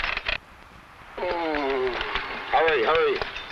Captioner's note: man groans